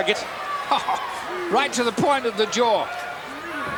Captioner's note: chuckling